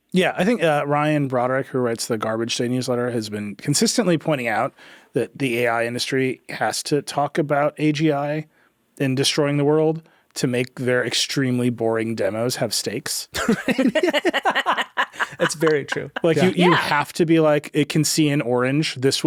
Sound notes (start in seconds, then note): 13.3 laughing